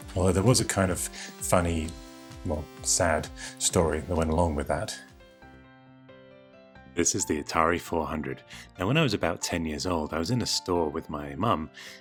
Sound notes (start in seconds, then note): none